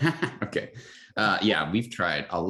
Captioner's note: laughs